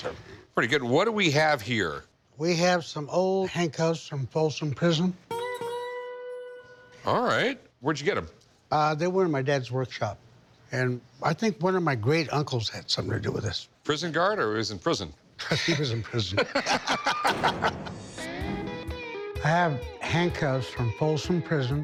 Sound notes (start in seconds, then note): 16.2 both laugh; 17.2 gate slamming